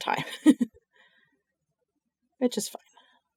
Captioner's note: laughs